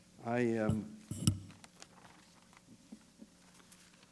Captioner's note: pause